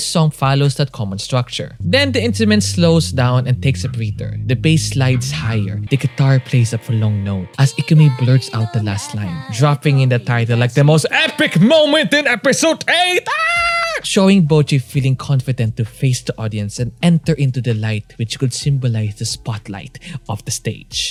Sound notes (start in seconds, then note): 13.0 manliest screams